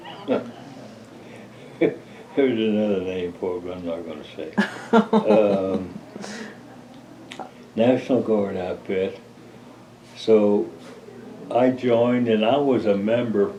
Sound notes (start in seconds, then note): 0.0 laughs; 7.2 laughter